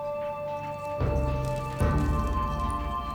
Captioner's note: beetles rustling